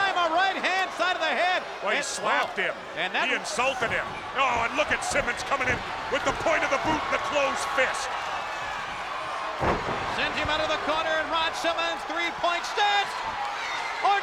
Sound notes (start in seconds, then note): 9.4 thuds